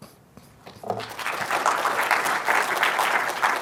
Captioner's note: applause